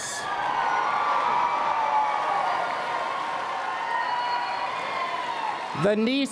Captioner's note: applause and Cheering